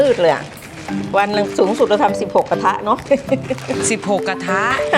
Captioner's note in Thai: เสียงหัวเราะ